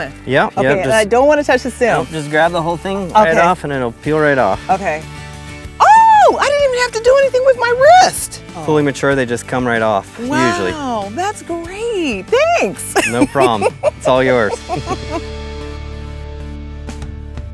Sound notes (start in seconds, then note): 12.9 chuckling